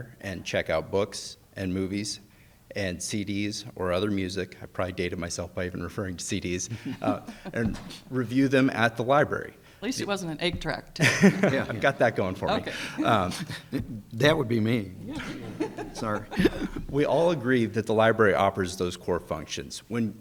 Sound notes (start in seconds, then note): 6.6 judges chuckling; 11.0 laughs; 15.0 people laughing